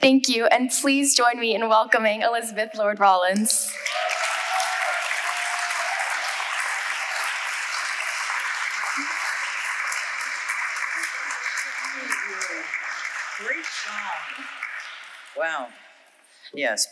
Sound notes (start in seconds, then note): 3.9 audience applauding